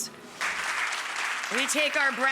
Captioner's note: audience applauding